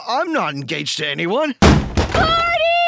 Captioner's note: door burst